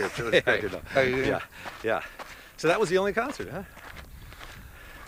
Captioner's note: laughs